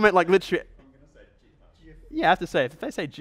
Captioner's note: voiceover